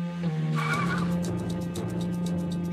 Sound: tires squeal

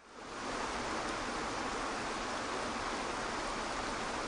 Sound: water falling

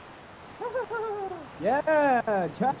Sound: maniacal laugh

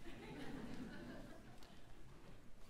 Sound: audience laughing

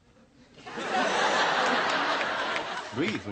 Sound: laughs

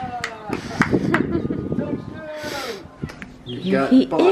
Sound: claps

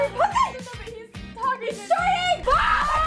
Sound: screaming

